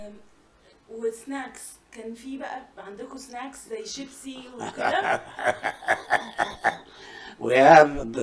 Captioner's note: laughter